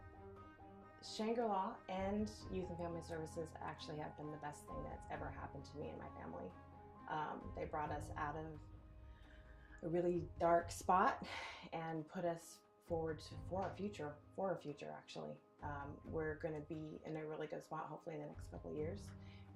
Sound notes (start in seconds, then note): 8.9 deep breath; 9.0 exhale